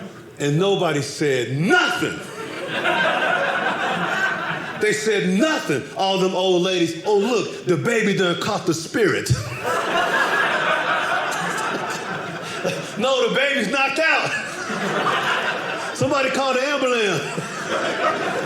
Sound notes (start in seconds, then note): 9.3 audience laughing